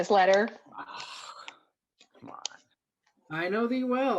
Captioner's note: scoffs